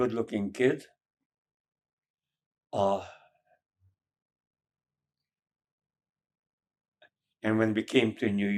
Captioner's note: pauses 6 seconds